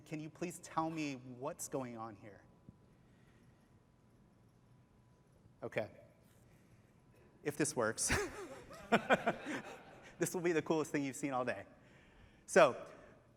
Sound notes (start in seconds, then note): 8.0 laughs